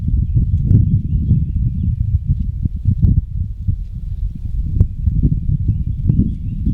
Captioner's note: birds in the distance chirp and sing